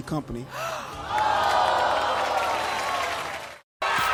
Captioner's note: audience cheering